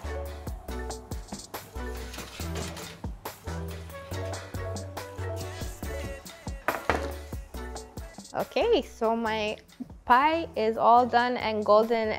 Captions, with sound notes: (pan sliding on over rack) (pan clunking on counter) Okay, so my pie is all done and golden